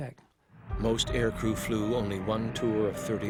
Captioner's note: voiceover